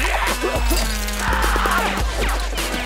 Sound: screaming

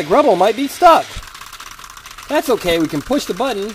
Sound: clicking

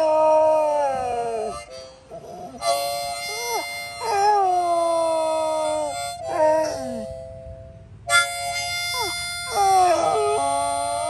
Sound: Jake howls oh so sadly

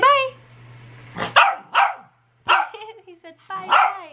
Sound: Mimmo barking

